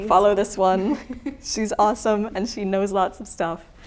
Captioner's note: laughing